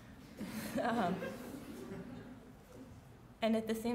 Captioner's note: laughing